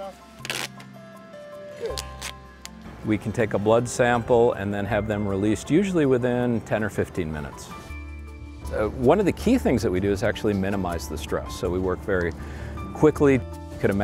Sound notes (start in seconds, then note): 0.2 tape rips